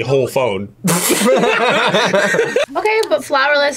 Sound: both laugh

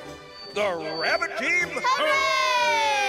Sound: all booing

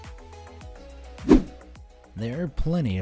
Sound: bright music; air whooshing

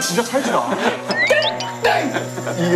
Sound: catchy sound; the annoying pitch

